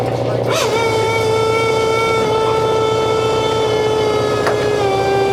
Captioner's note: engine revving